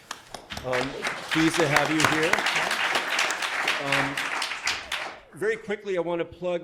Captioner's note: crowd claps